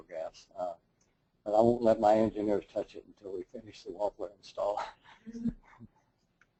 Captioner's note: laugh